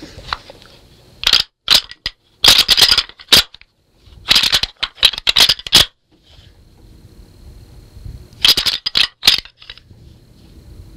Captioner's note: sound of rattle bag